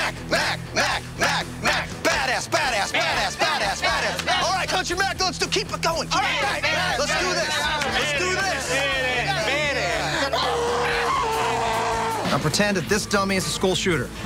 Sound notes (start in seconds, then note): 10.1 muffled scream